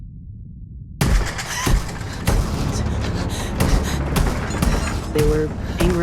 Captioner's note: loud stomps